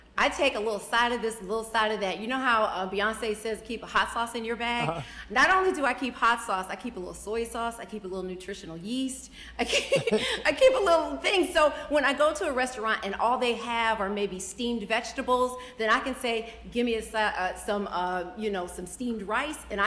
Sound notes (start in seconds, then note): 4.8 chuckles; 9.6 laughs